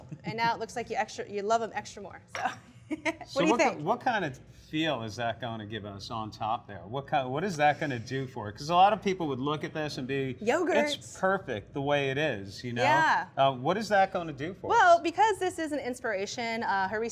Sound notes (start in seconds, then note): 2.4 laughs